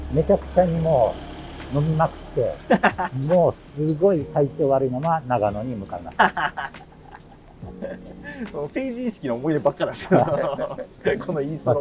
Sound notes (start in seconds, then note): 7.1 laughing